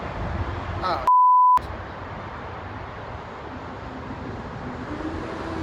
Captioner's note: beep